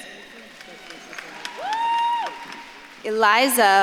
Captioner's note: audience claps and cheers